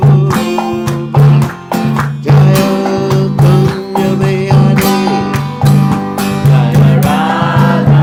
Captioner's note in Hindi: तालियाँ